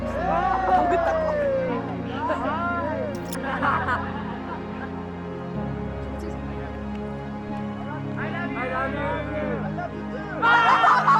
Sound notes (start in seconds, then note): 5.6 laughing